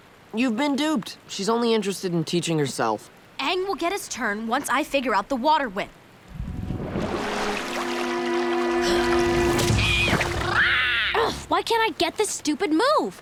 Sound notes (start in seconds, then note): 9.7 squawking